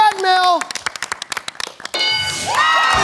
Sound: bell dings; wild cheers

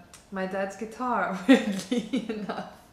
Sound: laughter

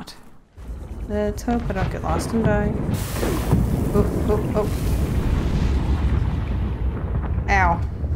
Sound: sing songy

